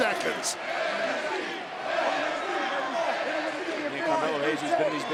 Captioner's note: crowd chants "NXT"